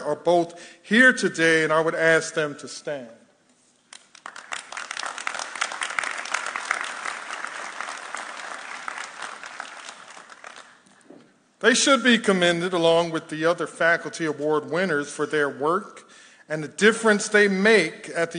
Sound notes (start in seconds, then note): 3.9 audience applauding